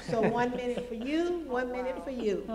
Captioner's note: laughter